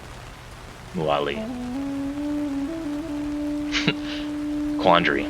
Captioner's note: laughs